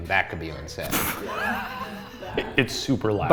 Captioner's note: laughs